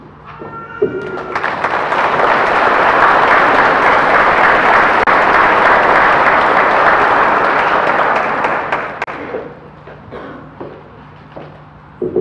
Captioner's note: audience applause